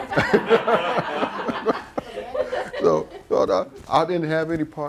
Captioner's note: laughter